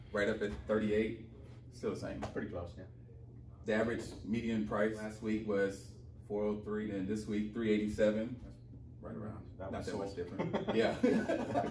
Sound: laughing

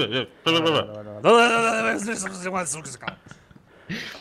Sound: silly gibberish

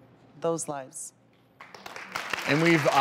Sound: audience claps

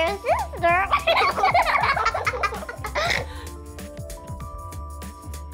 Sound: both children laughing

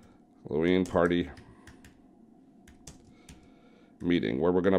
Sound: keyboar clacking

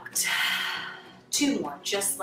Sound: exhales

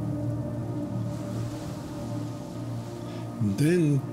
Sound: waves crashing

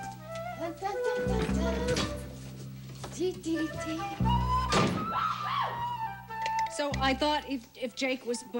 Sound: humming

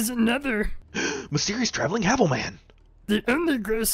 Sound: gasp

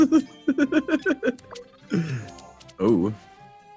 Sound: laugh

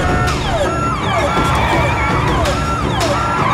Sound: sirens wailing

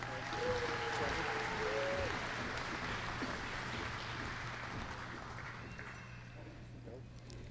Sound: applause

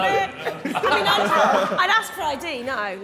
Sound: Sidemen laughing

